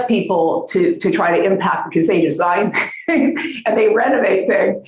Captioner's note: chuckling